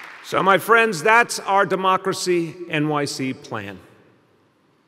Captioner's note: applause